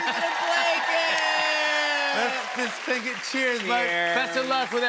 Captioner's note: cheers and applause